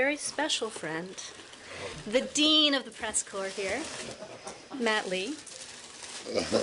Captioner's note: laughter